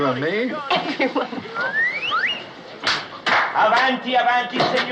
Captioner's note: laughing; speaking Italian